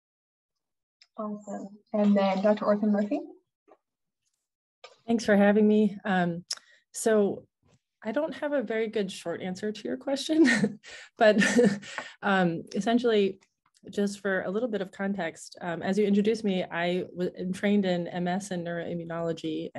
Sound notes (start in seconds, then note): 11.2 laughing